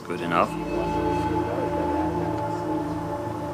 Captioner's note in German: Leise Stimmen im Hintergrund